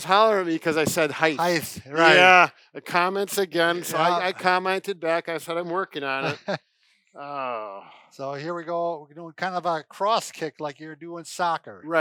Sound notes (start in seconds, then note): 6.2 laughs